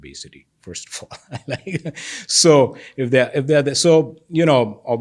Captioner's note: chuckles